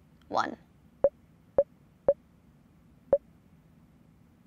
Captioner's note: computer beeps